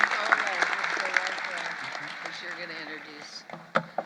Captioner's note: applause